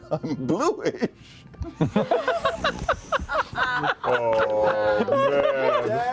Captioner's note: laughter; chuckling